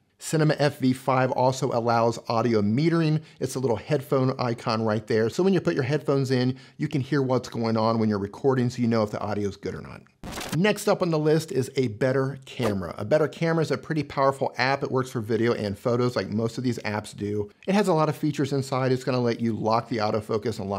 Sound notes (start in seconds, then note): 10.2 digital scratching